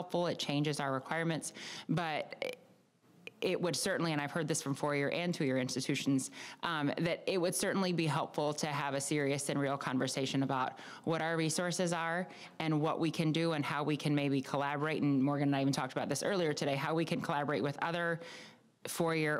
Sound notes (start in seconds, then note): none